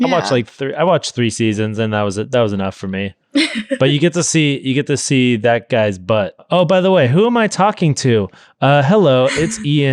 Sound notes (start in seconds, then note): 3.4 laughing